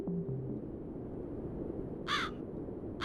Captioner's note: wind blowing, crows chirping